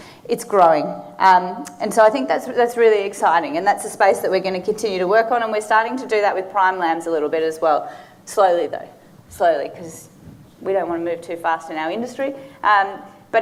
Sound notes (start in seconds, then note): none